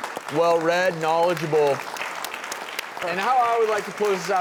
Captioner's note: applause